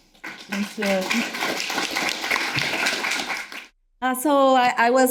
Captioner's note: audience applauding